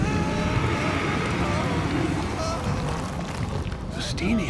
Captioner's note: people screaming